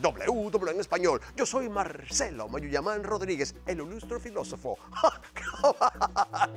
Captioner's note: laugh